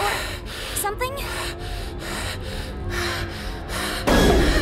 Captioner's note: hyperventilating